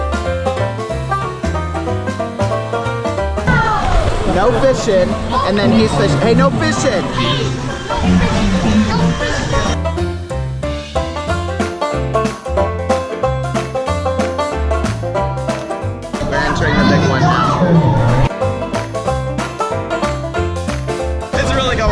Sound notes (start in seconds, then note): 0.1 upbeat banjo music; 8.5 male Voice; 10.6 upbeat banjo music; 18.9 upbeat banjo music